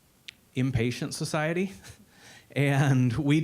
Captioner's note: chuckling